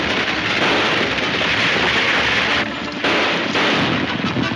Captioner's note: gunshots banging